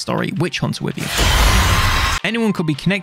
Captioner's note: monster shrieks